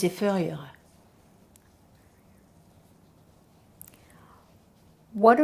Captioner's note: pauses 4 seconds